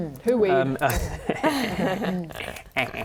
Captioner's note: laughing